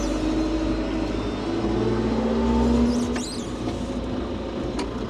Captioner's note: telehandler whirring